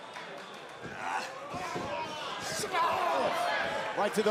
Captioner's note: crowd cheering